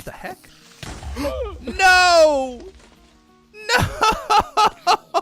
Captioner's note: explosion